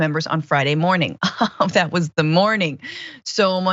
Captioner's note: laugh